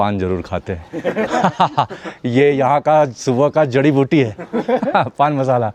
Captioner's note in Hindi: हंसी